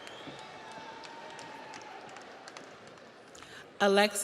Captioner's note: audience cheers; audience applauds